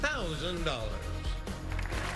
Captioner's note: applause